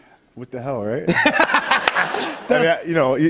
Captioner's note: laughter